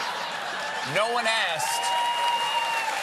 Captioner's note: cheers and applause